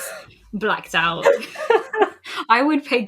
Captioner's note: laugh